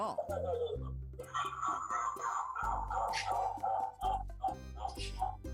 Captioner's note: doll wickedly laughs